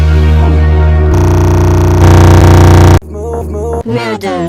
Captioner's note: stutter loop